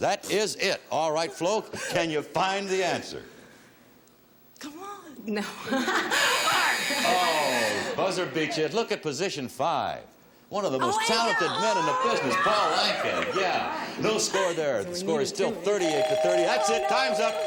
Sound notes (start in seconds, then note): 6.0 timer buzzing; 15.9 bell dinging